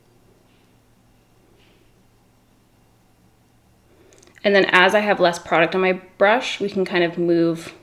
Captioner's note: none